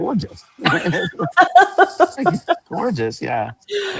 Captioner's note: laughter; laughs